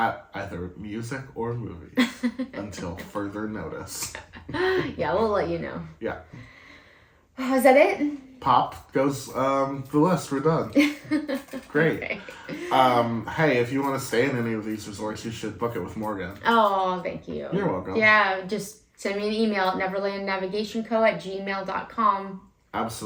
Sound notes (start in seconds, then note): 12.1 laugh